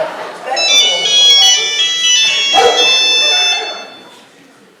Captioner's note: mobile phone rings